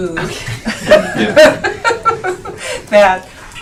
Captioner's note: laughing